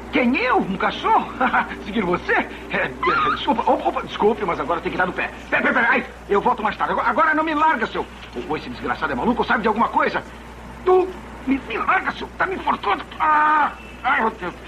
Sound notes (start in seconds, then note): 2.8 chuckles; 3.0 yelps